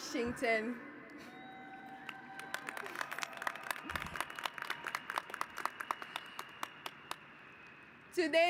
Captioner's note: applause